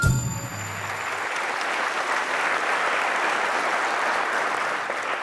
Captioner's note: applause